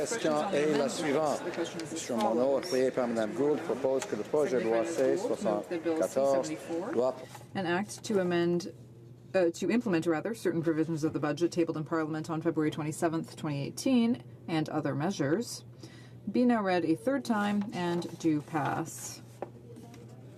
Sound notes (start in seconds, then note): 8.8 speaking french